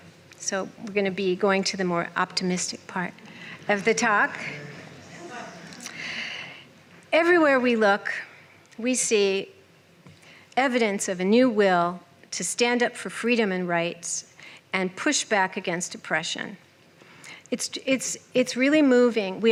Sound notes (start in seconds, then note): 5.0 laughter